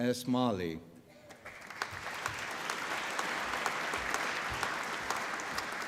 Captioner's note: applause